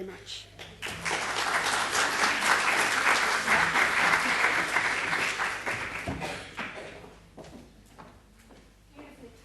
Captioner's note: applause